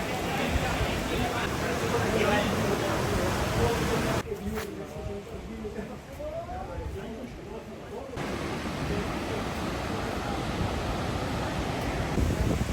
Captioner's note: beach walking